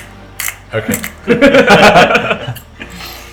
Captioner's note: laugh